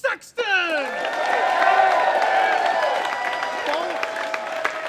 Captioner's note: applause